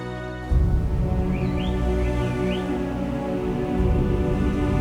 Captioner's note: birds chirping